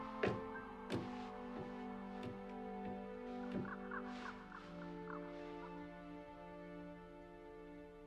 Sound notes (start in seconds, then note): 3.6 birds squawking